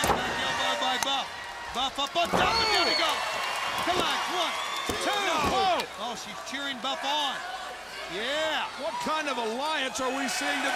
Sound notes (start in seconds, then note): 3.6 crowd cheering